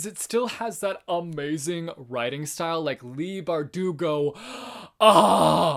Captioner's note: moans